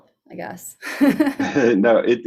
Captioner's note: both laughs